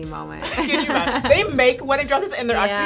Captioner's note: laughs